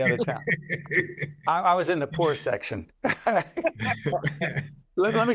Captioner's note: laughing